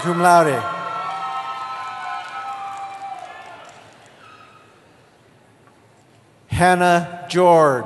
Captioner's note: cheering